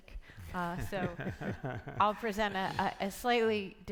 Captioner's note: panelists laughing